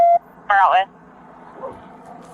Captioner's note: radio chatter